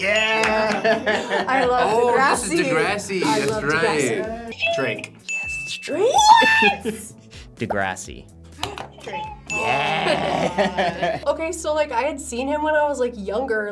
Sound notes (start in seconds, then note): 0.4 laughs; 4.6 buzzer rings; 5.2 bell rings; 8.7 gasps